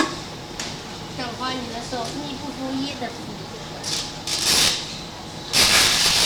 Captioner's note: speaking in Mandarin